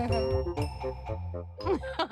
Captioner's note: giggling; laughing